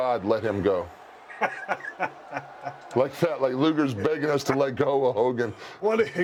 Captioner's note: laugh